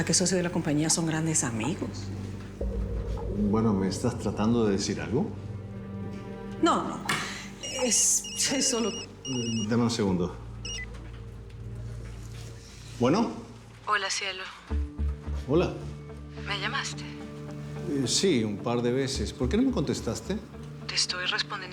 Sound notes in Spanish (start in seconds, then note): 7.6 Suena el celular